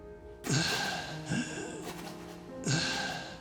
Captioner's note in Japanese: ため息